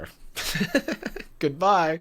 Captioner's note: laughs